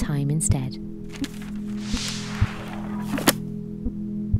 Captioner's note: page turning and book closing